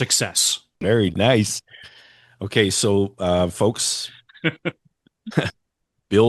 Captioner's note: laughter